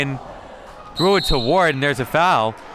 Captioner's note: referee blows whistle